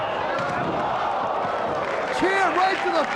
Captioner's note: spectators cheering and applauding